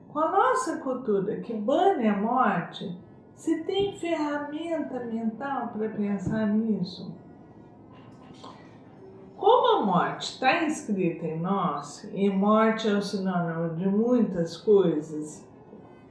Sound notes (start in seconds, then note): 8.3 deep breath